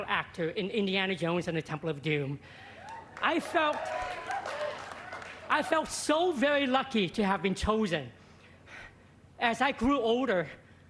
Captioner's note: applause